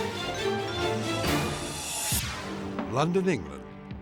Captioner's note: logo swooshing